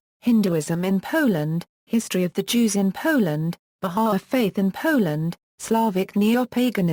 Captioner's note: Polish